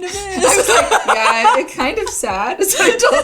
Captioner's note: laughing